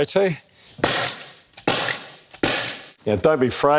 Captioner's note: stapling sound